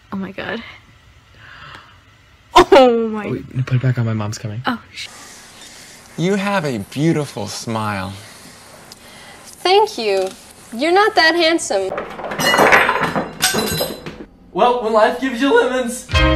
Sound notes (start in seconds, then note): 11.9 lemons falling into a bowl